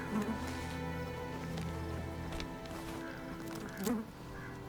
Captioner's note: flies buzzing